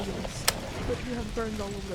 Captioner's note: a first aid box opens